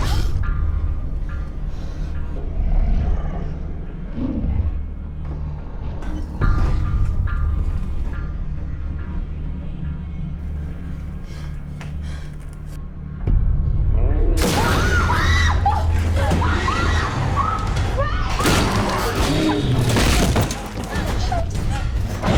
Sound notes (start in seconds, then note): 0.1 yelping stops; 3.7 animal growls; 5.7 panting; 14.0 bang; 14.5 both screaming